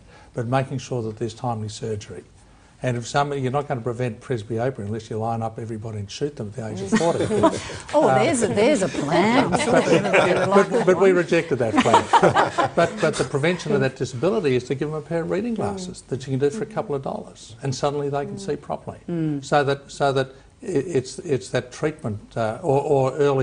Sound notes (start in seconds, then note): 6.8 laughs; 8.8 all laugh